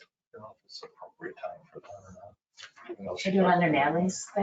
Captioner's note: speaking faintly